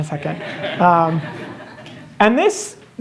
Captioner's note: laughter